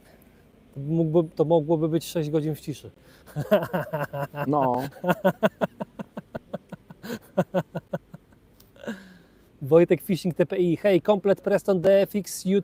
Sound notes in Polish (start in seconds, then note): 3.3 śmiech